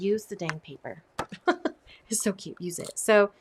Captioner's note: laughs